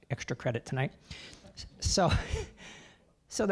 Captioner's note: laughing